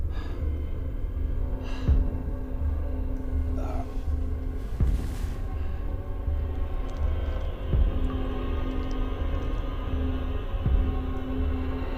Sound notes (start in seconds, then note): 0.2 light dramatic music; 3.6 Monte groans; 6.6 suspenseful music